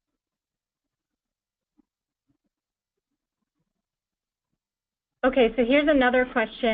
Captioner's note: pause